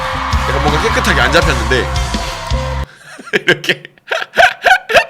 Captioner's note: laughs